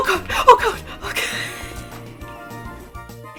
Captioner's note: wheeze; gasp